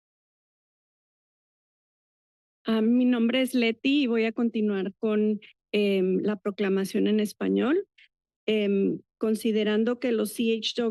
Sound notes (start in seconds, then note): 3.0 foreign language